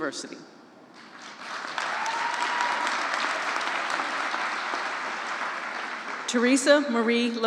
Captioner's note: applause